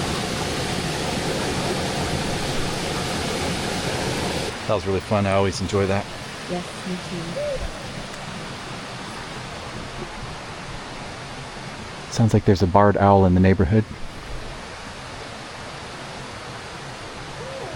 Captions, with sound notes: That was really fun. I always enjoy that. Yes, me too. [owl sound] Sounds like there's a barred owl in the neighborhood.